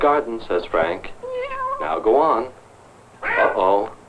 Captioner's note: angry meowing; mewing